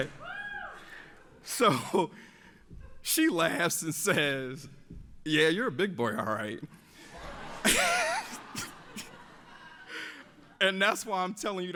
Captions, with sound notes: So she laughs and says, "Yeah, you're a big boy, all right?" (audience laughs) "And that's why I'm telling you